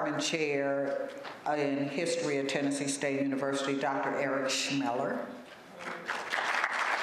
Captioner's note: applause